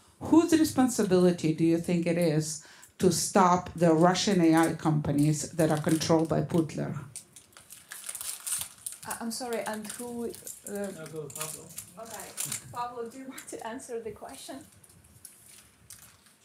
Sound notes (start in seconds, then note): none